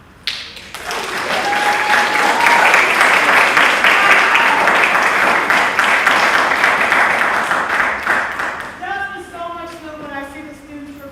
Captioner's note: applause